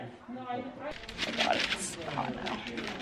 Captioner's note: paper rustling